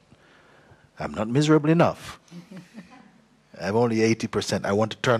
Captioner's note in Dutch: zacht gelach